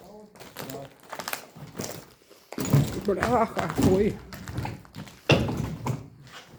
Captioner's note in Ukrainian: хрускіт під ногами